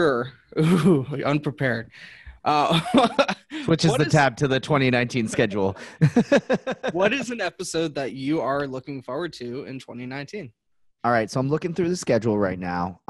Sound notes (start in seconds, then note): 5.8 laughs